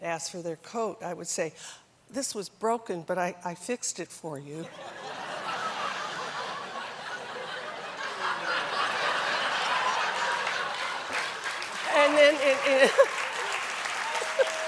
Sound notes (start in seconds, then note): 4.6 laughter; 13.4 applause